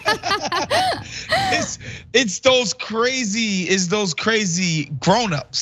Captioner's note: laugh